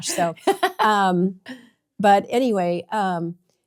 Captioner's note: laughs